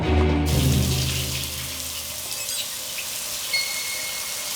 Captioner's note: shower trickling